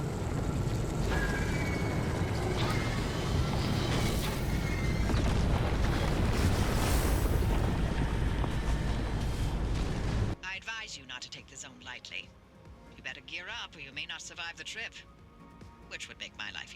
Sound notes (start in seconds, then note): 1.0 bunny screeching; 5.6 anomalous impact noise